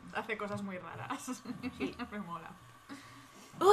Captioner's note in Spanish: risas